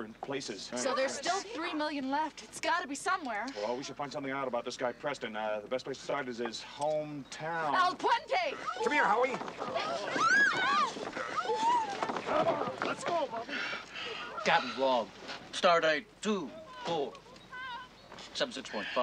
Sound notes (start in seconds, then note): 13.4 imitating William Shatner